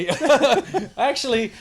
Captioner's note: laughter